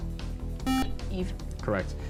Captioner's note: buzzer